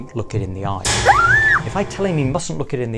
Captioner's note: screams